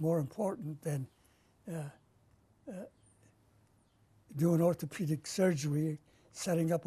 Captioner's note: pauses for 3 seconds